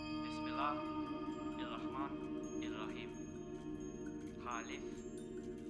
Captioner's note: speaking foreign language